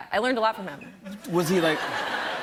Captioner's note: laughter